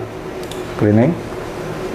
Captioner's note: clicking sound